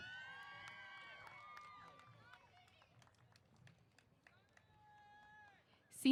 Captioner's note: applause & Cheers